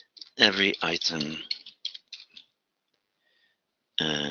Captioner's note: typing